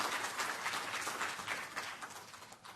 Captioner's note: applause